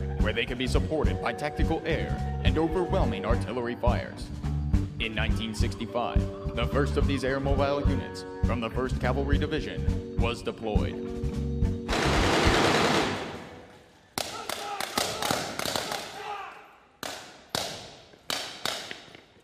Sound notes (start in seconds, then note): 11.9 drum roll; 14.6 gunshots